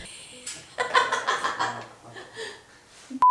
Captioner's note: laughs in cat antics